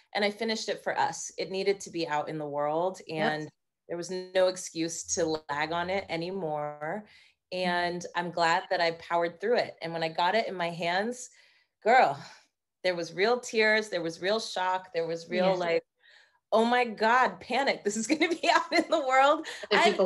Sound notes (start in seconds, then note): 15.4 laughing